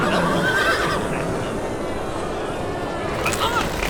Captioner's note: נהמות; צעקות